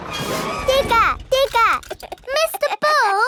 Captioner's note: chuckles